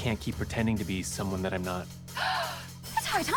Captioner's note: mar-14 gasps